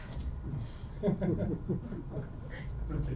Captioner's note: laughter